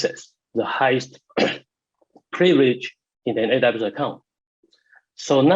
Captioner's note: clears throat